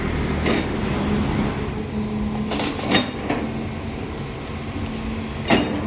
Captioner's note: engine Rev